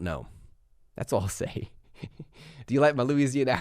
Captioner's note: laughs